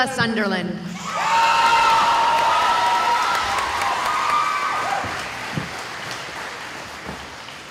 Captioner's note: cheering